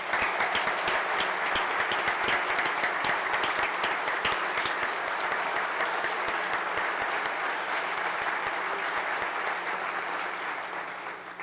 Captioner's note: applause